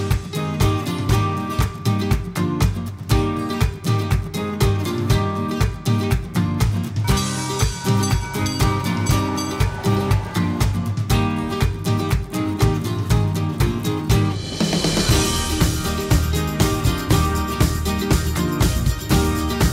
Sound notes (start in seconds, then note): 7.1 train's bell dings